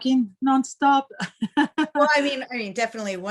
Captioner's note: chuckles